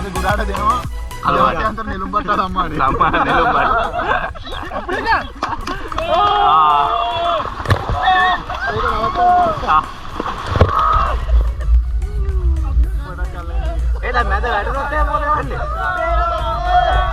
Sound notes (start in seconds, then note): 3.8 shouting and laughing